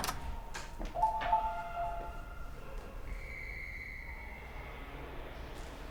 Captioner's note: door opens